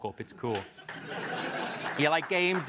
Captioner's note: laugh